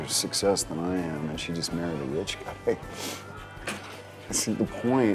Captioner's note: chuckles